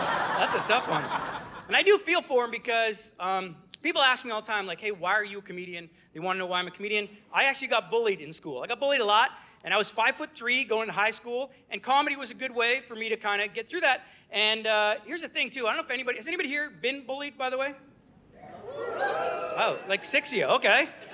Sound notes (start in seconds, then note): 0.0 audience laughing; 18.4 audience woos